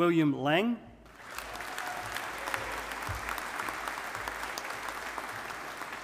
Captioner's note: audience applauding